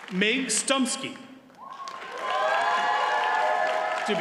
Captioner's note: audience cheers and applauds